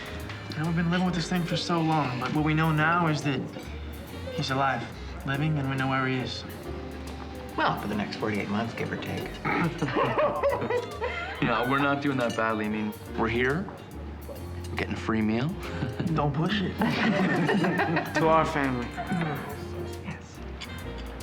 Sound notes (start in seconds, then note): 0.0 sighs; 9.3 laughs; 16.8 all laugh